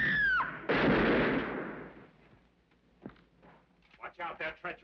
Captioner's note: Cecille shouts; gun bangs